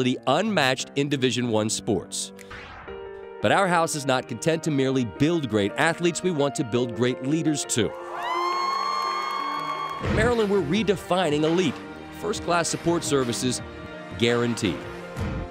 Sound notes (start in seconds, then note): 8.1 cheers